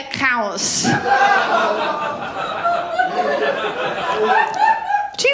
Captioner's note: laughter